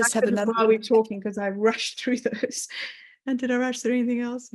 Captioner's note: laughing